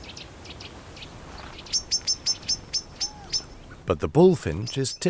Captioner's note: bird chirping